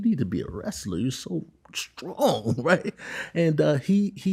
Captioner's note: chuckles